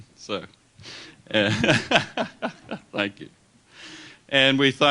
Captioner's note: laughs